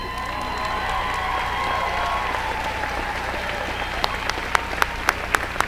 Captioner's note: applause